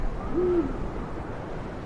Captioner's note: hoot of an owl